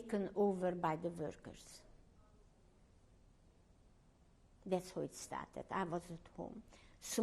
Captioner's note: pauses for 3 seconds